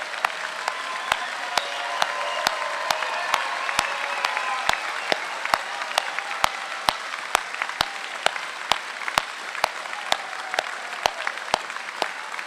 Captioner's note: applause